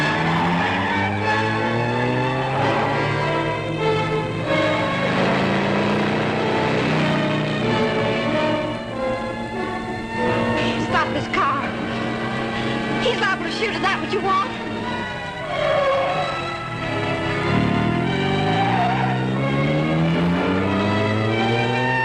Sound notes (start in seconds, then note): 0.1 engine roaring; 4.9 engine roaring; 9.5 siren wailing; 15.6 tires squealing; 18.4 engine rumbling; 21.8 sirens wailing